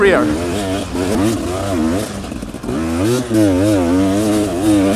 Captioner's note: engine revving